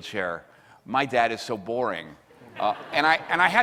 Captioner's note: audience laughs